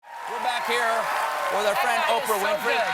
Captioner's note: cheers and applause